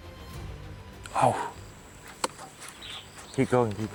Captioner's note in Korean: 탄식